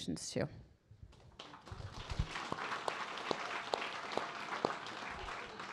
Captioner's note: audience applauding